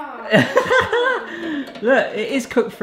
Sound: laughing

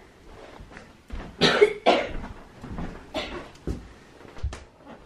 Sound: coughs

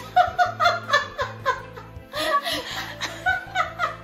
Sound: laughs

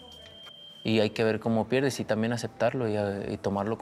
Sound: silbatazo

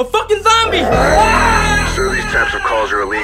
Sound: Julio screams

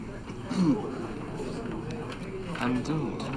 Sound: court murmurs

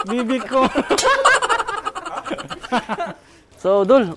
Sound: laugh

